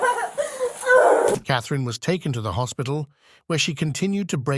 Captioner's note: crying